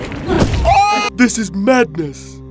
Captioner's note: screams in agony